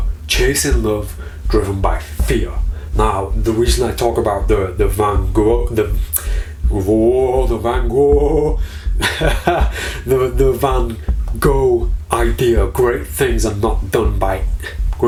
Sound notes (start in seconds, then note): 7.8 laughing